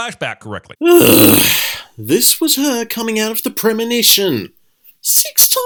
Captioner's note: groan